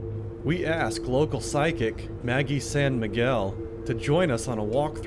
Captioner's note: voiceover